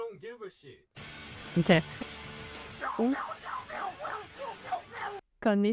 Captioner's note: demonic noises